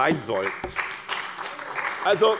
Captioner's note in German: Beifall bei der SPD